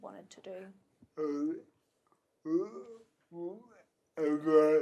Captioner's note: murmurs